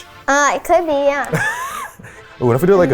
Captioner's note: laughs